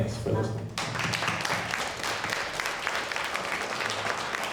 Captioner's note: audience clapping